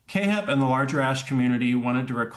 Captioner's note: none